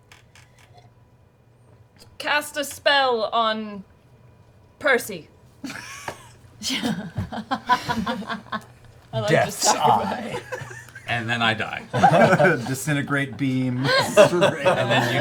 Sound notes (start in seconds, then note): 6.6 laughter